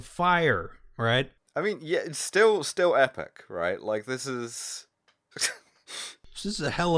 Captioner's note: laughter